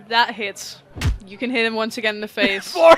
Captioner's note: meaty thud; laughing